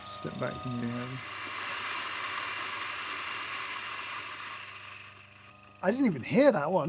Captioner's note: grinder whirring; beans grinding